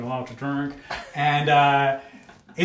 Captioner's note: laughs